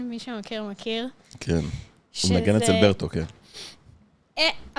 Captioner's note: sounding annoyed